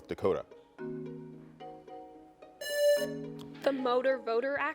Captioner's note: lively music; buzzer buzzing